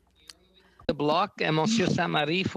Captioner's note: speaking French